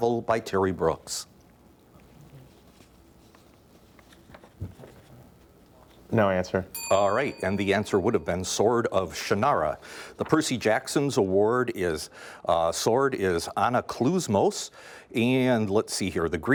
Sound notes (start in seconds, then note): 6.7 bell dings